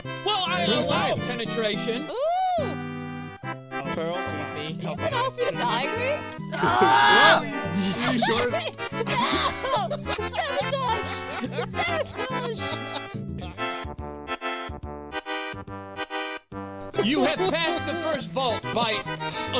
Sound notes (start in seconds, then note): 6.5 laughing; 11.5 crowd laughter